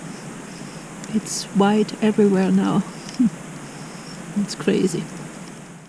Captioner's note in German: lacht